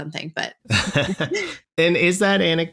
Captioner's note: laughter